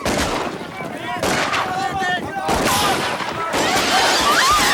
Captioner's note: guns fire; townsfolk yell; townsfolk scream; plates shatter